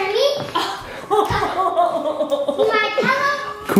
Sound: laughs

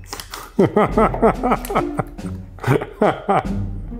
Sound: laughs

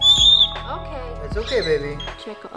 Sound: Leo chirps

